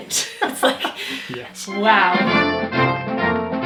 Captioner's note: laughs